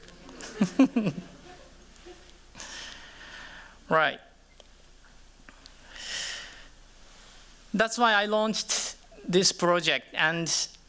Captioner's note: chuckles